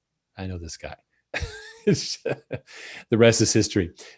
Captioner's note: laughs